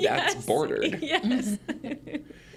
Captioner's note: laughs